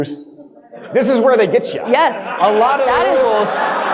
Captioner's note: audience speaking